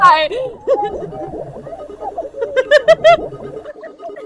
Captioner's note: drowned screams